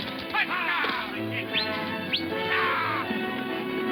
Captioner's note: man whistles; man whooping